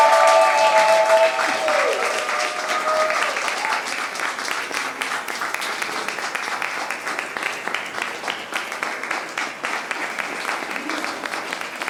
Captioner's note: applause